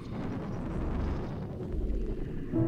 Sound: rumbling distortion

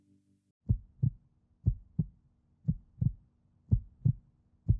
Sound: heartbeat sounds

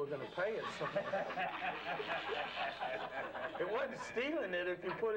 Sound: laughing

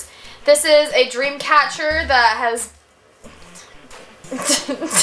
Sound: laughs

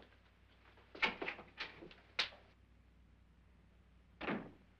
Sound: door opens; door closes

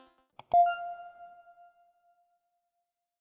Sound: logo beeping

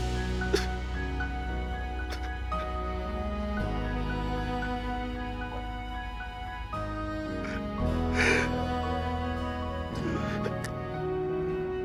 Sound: crying

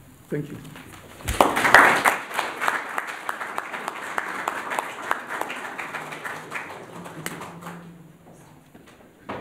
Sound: applause

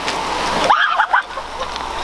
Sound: screams

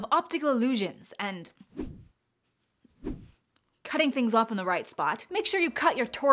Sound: air whooshing

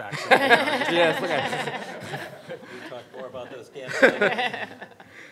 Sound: everyone laughs

